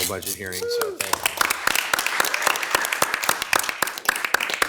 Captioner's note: all clapping